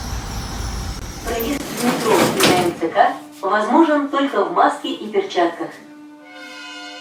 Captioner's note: closing doors